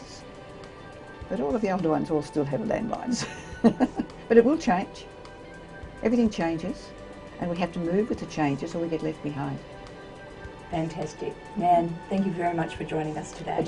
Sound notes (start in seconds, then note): 3.3 laugh